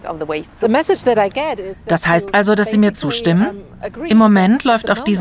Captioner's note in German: englisch